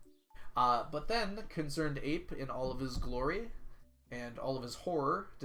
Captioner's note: none